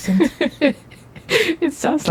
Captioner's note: Vixen laughs